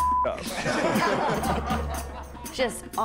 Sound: laughter

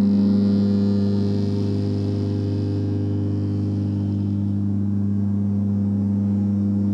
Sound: reverberating humming continues

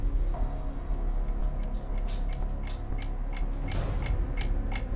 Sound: tense music; clock ticking loudly

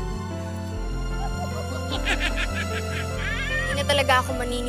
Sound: laughs

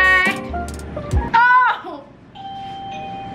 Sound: exclaims; bell dings

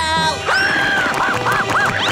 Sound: screaming

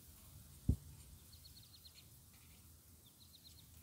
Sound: birds chirping

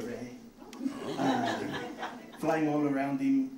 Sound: audience laughing

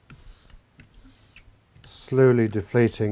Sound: engraving tool squeaks

